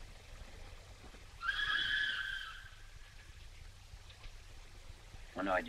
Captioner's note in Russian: свист поезда